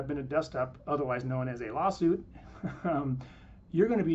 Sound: chuckles

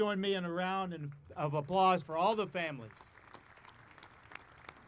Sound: audience applauding

